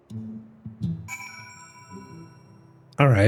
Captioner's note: bell